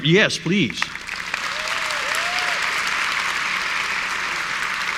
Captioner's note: audience applauds